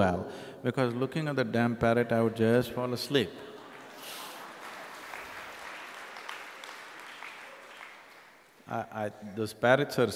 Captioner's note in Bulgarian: Аплодисменти